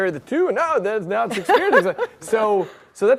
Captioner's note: laughs